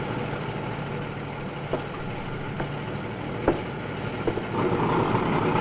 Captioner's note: soldiers chattering